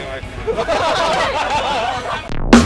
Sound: laughters

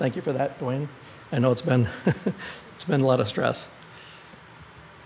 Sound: chuckles

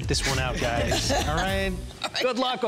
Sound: laughs

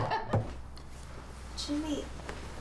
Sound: sheets rustling

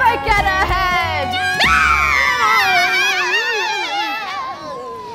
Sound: Scylla shrieks

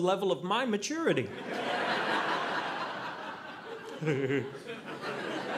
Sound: audience laughing

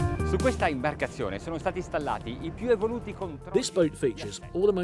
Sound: speaking in foreign language

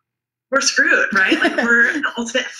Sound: laughs

